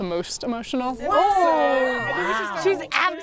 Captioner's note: group excitedly responses